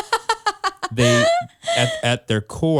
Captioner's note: laughs